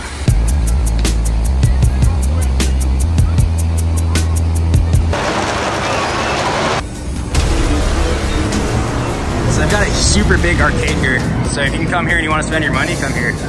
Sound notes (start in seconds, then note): 5.2 riders screaming